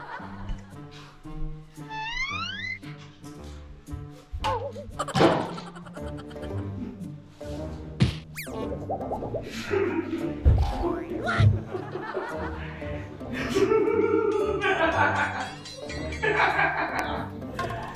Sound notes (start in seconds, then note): 13.9 evil laugh